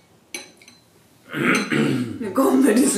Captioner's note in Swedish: Harklar sig